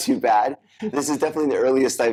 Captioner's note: laughs